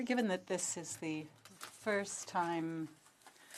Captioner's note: speaking French